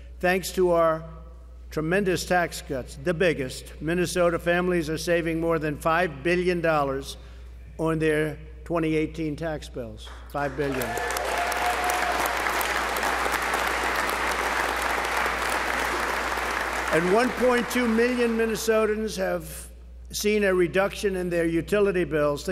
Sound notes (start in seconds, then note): 10.1 applause